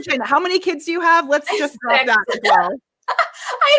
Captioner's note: laughing